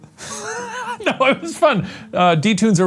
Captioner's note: laughs